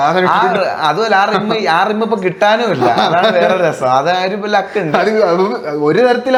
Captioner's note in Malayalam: പൊട്ടിച്ചിരി